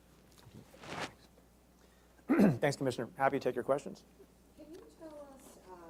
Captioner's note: clears throat